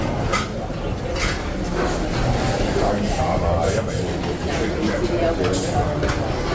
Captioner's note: loud clinking of plates and busy restaurant chatter